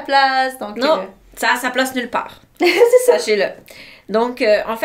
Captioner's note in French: rires